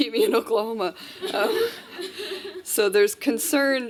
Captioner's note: laughter